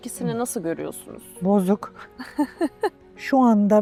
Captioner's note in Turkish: kahkaha